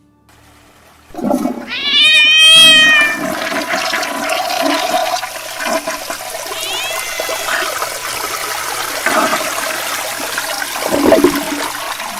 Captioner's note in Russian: звук слива воды в унитазе и кошачье мяуканье